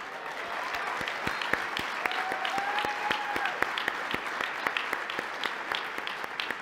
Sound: applause

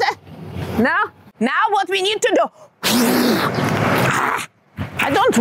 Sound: blows hard

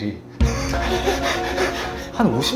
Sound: hahaha

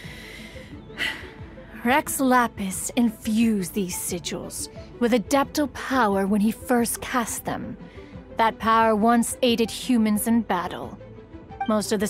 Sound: sigh

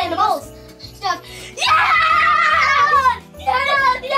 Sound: cheering

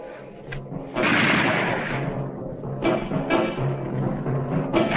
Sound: guns firing

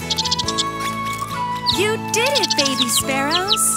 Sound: squirrel noises; chirping

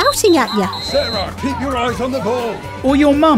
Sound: whistle blowing; coach yelling

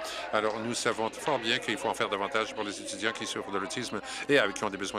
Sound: applause

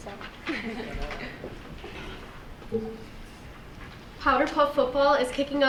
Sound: girls laughing

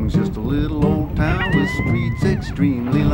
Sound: crying

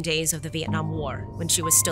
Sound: none

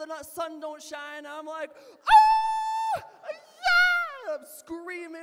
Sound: scream

